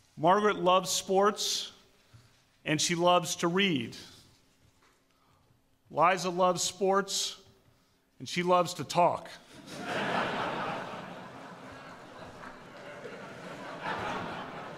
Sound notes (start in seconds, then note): 9.5 laughter